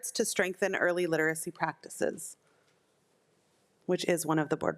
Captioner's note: none